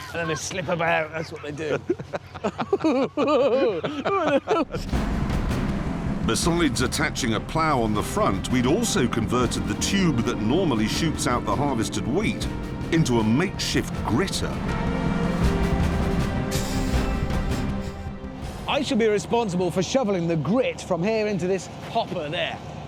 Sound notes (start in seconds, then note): 2.5 they laugh